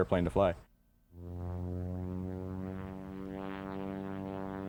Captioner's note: plane engine running